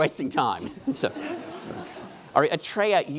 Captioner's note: laughing